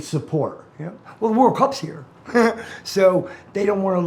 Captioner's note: laughing